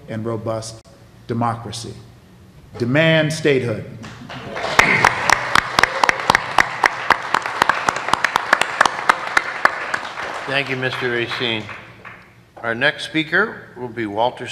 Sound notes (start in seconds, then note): 7.1 applause